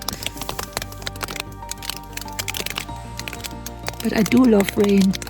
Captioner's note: rain drops on the tent